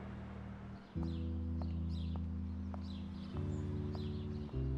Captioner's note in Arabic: تغريد الطيور